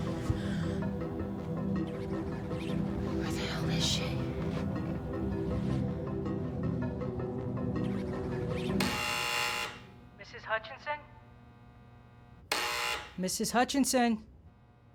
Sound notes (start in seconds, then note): 7.8 intercom buzzes; 11.2 buzzes again